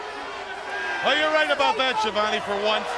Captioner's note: crowd chatter